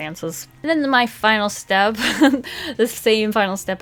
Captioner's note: laughs